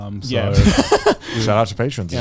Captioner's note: chuckles